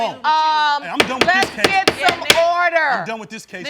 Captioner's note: bangs gavel